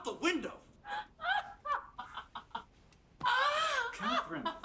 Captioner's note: laughing